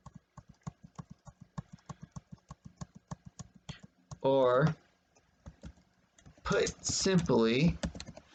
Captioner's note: tapping of the keyboard